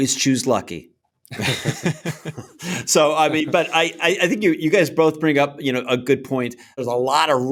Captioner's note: laughter